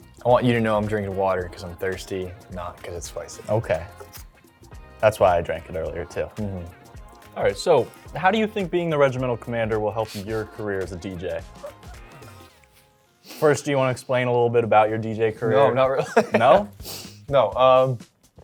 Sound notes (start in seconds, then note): 11.5 laughing